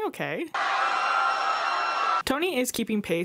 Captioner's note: crowd screaming